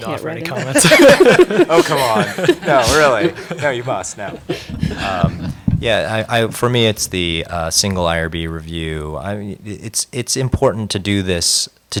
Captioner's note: laughter